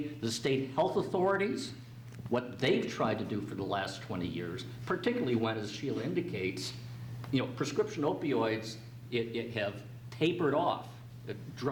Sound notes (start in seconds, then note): none